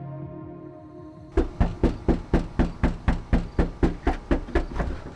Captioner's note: knocking